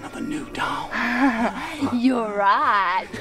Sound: Tabitha laughs

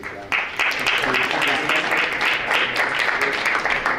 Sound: applause

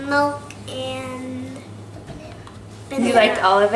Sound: whispering

